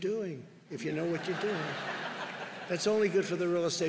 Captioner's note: laughter